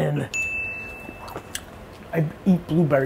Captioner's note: dings